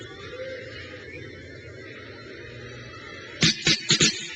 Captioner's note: crowd cheers